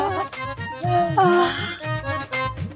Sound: sighing

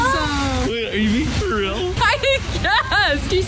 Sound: laughing

